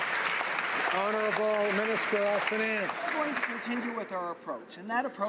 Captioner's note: some Applause